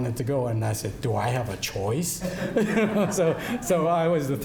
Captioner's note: laughing